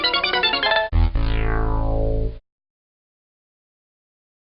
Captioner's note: SFX: Computer tabulating; SFX: Fail horn